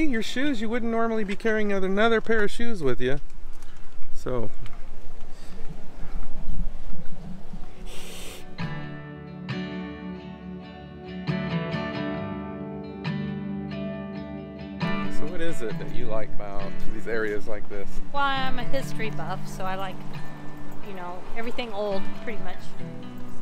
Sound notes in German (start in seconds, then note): 7.9 zischt wie eine Katze